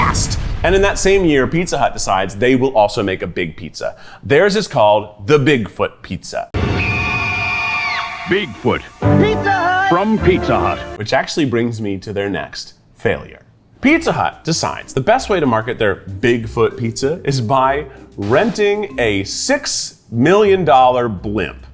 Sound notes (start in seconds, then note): 6.8 child screams